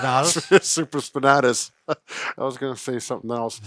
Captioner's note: laughing